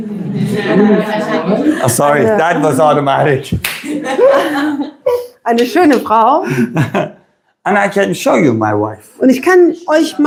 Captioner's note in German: gelächter